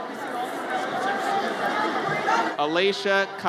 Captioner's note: audience chatters